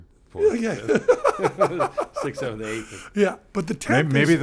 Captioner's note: laughs